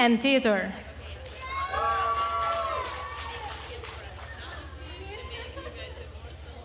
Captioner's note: attendees cheering and applauding